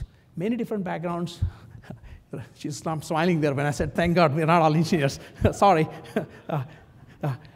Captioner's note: laugh